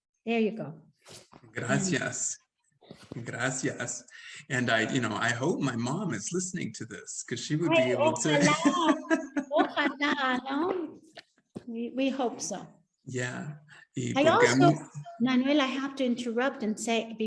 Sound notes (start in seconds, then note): 9.8 Sandra speaking Spanish; 13.3 speaks Spanish